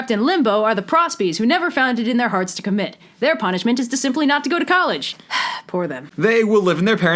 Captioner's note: sigh